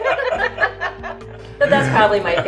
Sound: group laughing

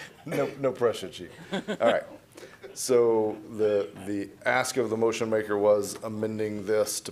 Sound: laughter

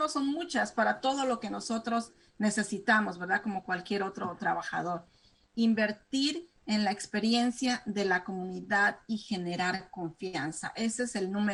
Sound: speaking spanish

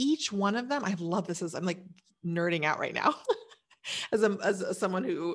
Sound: laughs

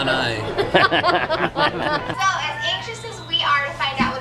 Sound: laughing

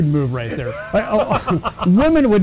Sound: laughing

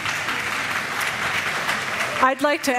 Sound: applause

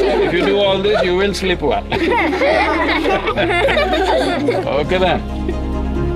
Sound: laughter

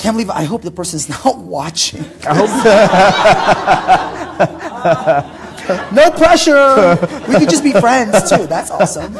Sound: laughter

